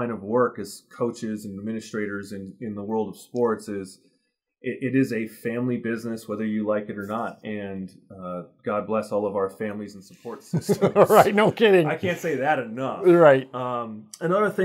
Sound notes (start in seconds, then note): 10.3 laughs